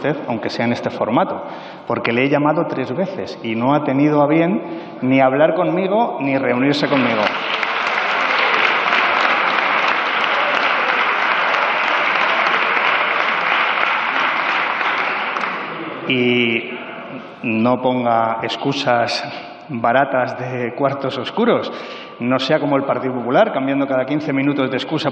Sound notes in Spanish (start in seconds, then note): 9.8 Aplausos